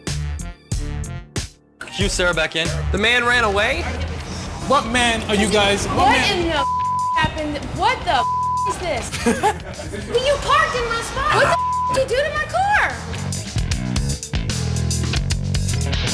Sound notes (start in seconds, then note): 0.3 upbeat music; 8.1 beep; 9.0 laughter; 11.5 beep; 13.1 upbeat rock music